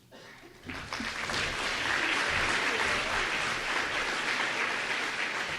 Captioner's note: applause